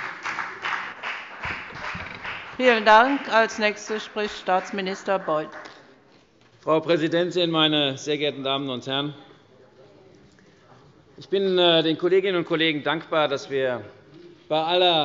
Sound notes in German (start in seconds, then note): 3.3 Beifall bei der FDP